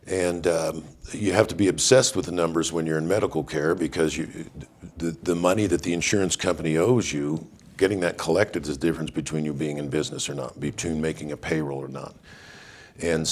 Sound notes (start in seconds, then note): none